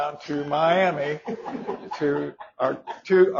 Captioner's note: audience laughs